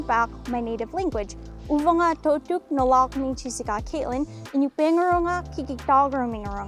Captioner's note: speaking in Iñupiaq language